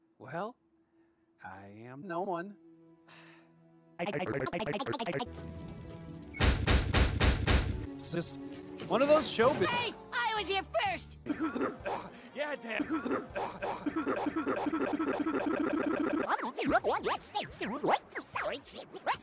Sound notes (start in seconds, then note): 4.0 stutters while pitch shifting; 12.7 caughing; 12.7 stuttering while caughing; 16.8 vibrato